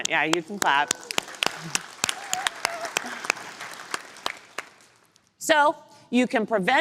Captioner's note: applause